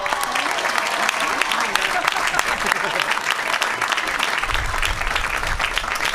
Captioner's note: applause